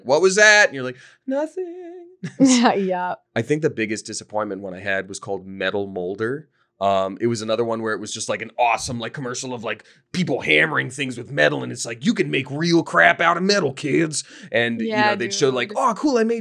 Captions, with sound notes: like, what was that? And you're like, nothing. (laughing) - Yeah. I think the biggest disappointment when I had was called Metal Molder. It was another one where it was just an awesome commercial of people hammering things with metal and it's like, you can make real crap out of metal kids. And they'd show like, Oh, cool,